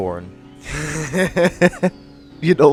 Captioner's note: laughing